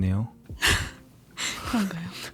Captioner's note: laughs